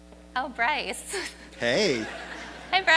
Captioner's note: audience laughs